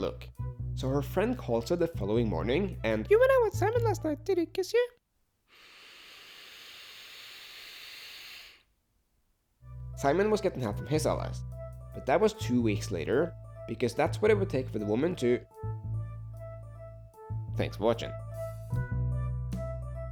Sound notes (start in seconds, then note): 5.5 breathes through nose